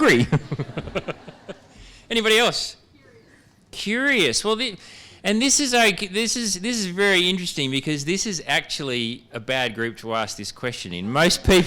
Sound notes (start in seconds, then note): 0.1 laughter